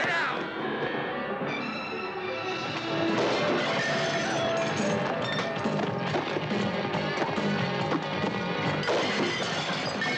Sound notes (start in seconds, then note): 1.6 dramatic, orchestral music; 3.4 crashing debris; 3.4 dramatic music